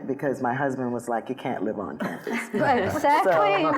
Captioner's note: laughing